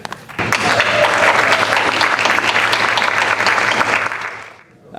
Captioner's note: audience applauding